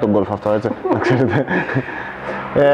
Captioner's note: laughs